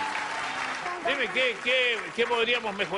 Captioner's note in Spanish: Aplausos